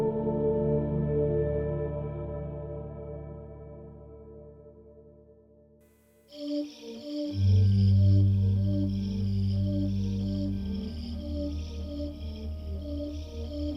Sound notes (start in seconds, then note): 6.0 crickets chirp; 7.0 melancholy organ music